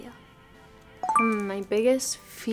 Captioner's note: bell chiming